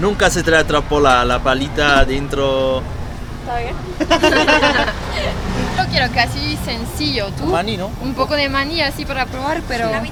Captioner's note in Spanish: risas